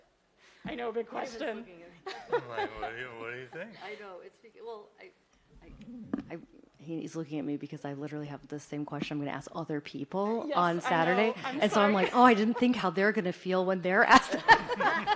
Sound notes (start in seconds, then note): 10.8 laughter